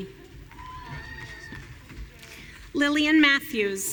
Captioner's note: audience cheering